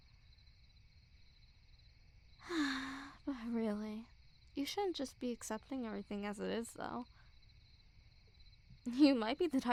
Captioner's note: sigh